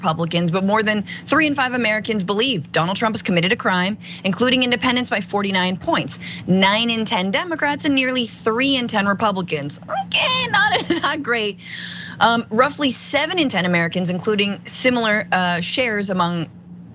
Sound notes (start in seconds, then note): 10.0 laugh